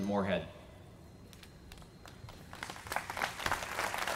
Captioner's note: applause